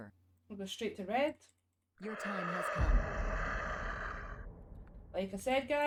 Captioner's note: ghost noise